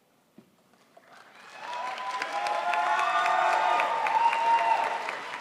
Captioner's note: crowd applauds